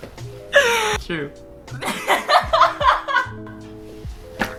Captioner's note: shrieking